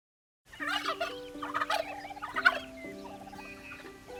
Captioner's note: turkey gobbling; soft, relaxing music